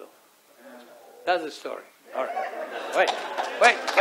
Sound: audience starts applauding

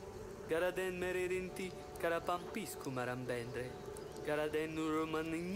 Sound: speaking in foreign language

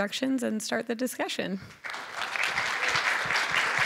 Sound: applause

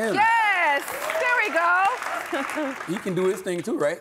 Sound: audience claps

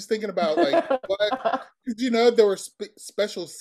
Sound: laughing

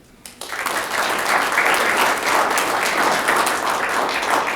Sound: audience clapping

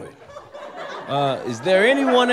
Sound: audience laughter

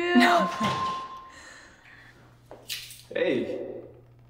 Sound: house door Chime

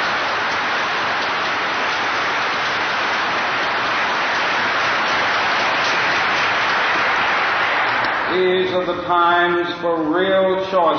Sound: applause

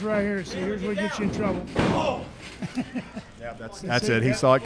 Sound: laughs

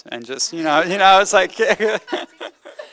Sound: laughter

